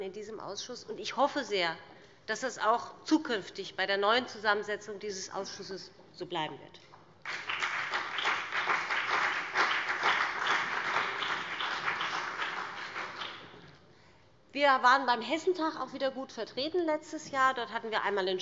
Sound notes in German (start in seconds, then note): 7.2 Beifall BÜNDNIS 90/DIE GRÜNEN, CDU und vereinzelt SPD